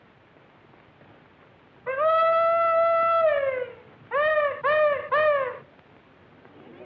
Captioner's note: hollering; chatter